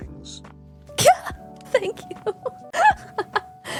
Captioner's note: laughs